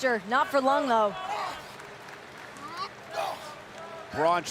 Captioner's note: Lashley grunts